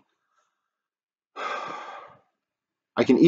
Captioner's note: narrator exhaling heavily